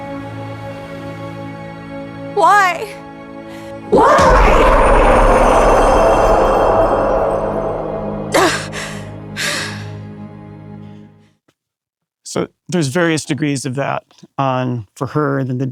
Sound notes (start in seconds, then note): 0.2 melancholy music; 3.9 echoing; 9.4 Rumi gasping